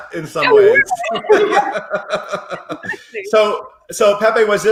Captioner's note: all laughing